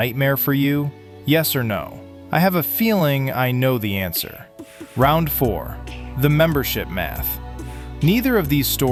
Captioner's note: thoughtful